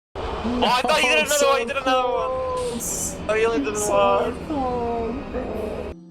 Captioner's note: sounds of desperation